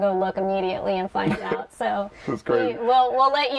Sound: laughter

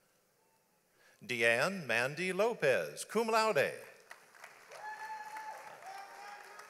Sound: audience applauds

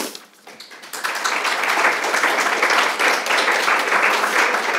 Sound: audience applauding

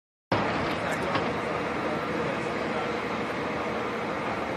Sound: machinery whirring

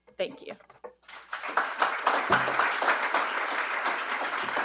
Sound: audience applauds

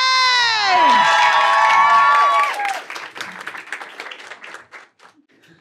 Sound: applause and cheers

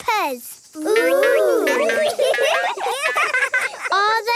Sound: laughing

